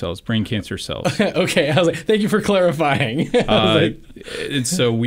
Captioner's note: laughs